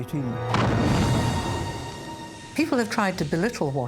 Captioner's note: bomb exploding